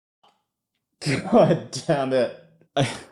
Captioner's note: laughter